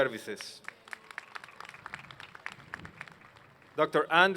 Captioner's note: applause